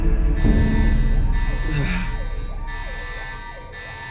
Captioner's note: alarms blaring; moans